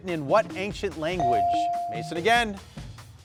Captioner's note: buzzer dinging; suspenseful music